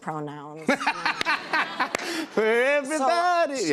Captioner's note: laughter